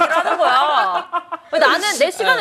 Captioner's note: hahahaha